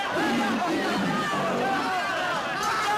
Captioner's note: chatter